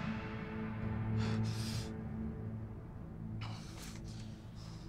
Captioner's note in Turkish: Nefes sesi